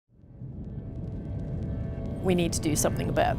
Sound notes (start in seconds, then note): 0.1 crackle of Fire